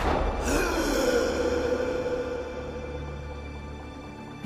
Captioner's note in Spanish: Disparo; Grito ahogado